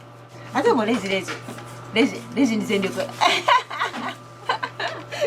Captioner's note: laughs